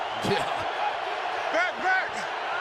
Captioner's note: laughs